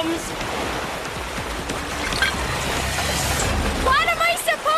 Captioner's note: water rushing